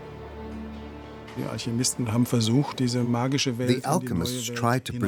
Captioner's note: speaking in German